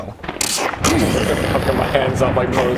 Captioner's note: tzzzsrk krrrrssghh